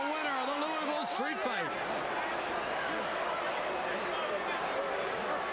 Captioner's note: crowd chattering